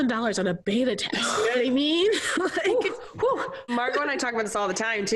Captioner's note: laughs